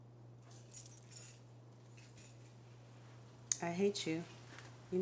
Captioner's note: keys jangling